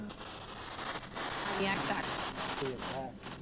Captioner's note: spirit box voice